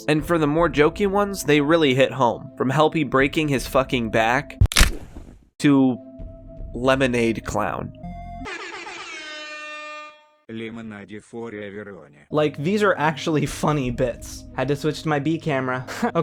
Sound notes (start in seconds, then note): 4.6 snapping sound; 8.4 airhorns